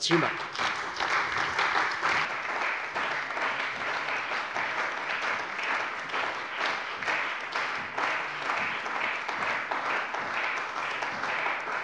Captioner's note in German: Beifall bei der CDU und dem BÜNDNIS 90/DIE GRÜNEN